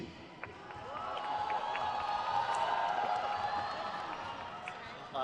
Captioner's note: crowd cheers